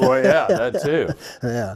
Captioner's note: laughs